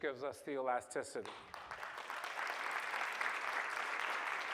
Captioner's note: applause